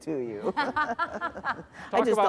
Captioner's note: laughter